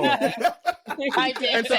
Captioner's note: laughing